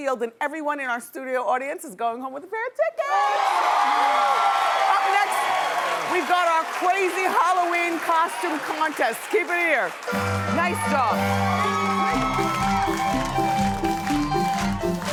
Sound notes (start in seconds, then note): 3.3 cheering; 11.8 upbeat circus music